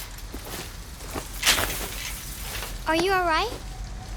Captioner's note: fabric tears